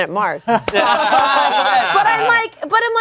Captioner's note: everyone laughing